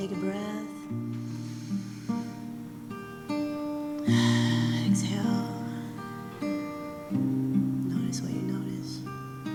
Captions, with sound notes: Take a breath (Inhales) (Exhales) Exhale Notice what you notice